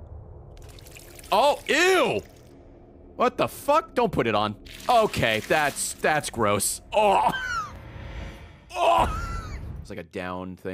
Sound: gags

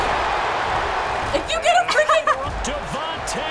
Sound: laughs

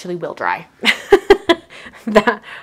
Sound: laughs

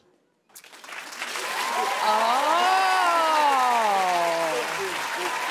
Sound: audience applauding

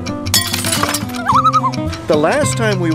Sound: loon call

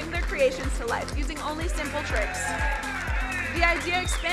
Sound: crowd cheering

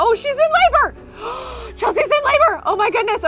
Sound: gasps

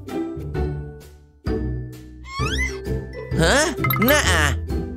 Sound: grumbles

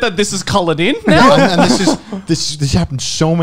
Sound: men laughing

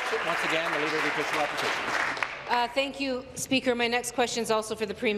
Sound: applause

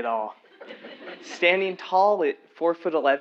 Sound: laugh

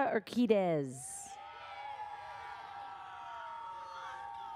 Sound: audience cheers

